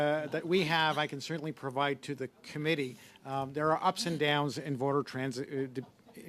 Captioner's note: laughter